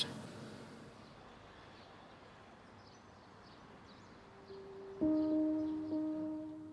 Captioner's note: birds twittering